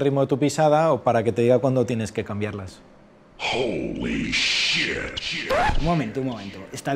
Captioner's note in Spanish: Voz en off